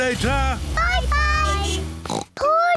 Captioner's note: horn beeps; oinks